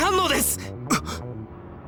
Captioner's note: gasp